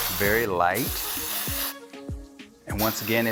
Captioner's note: spraying